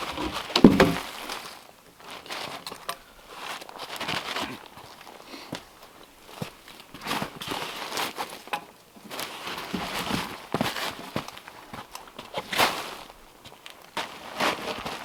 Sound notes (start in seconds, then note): 0.0 log thudding